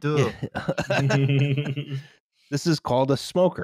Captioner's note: laughter